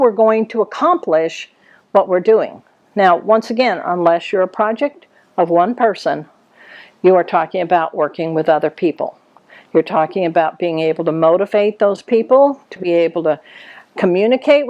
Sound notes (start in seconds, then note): none